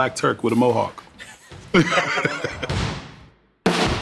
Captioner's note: laughter; drumming